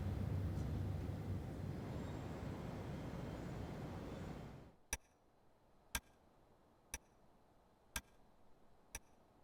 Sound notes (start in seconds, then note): 4.8 clock ticking